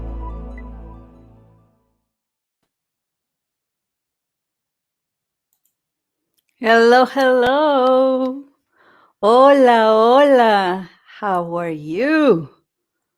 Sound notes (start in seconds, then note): 9.0 Spanish